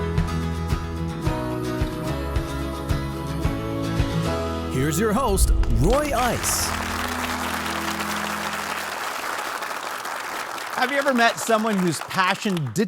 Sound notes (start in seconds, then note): 1.3 bright music continues; 8.7 audience clap